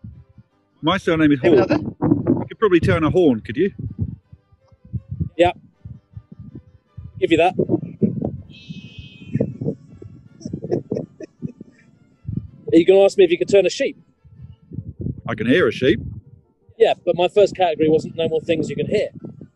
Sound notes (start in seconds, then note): 8.4 sheep bleating in background; 10.4 giggling